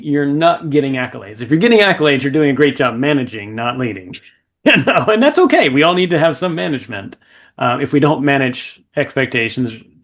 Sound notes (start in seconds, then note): 4.6 laughing